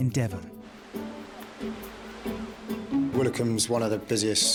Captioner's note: lively music; wind whooshing